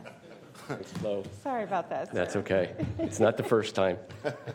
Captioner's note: laughter; laughter